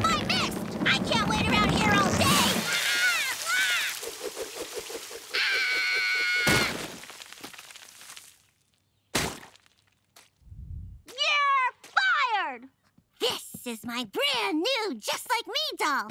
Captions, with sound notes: I can't wait around here all day! [screaming] [screaming] You're fired! This is my brand new, Just Like Me doll.